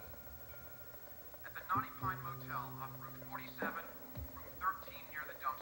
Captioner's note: sound of clanging bell